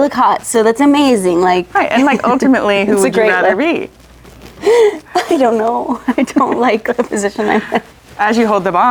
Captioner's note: laughs